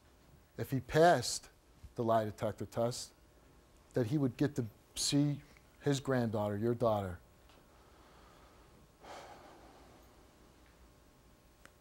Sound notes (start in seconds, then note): 9.0 sighs